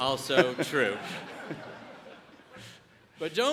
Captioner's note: audience laughs